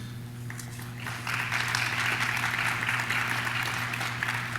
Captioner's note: audience claps